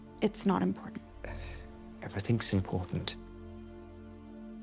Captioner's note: sighs